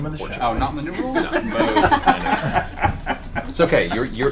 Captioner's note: all laugh